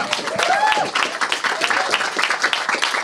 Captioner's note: cheers and applause